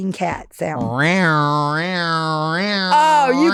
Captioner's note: Delta purring